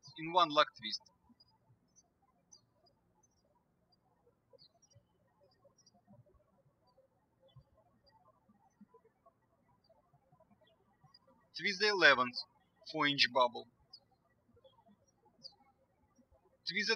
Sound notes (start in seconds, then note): 2.2 birds chirping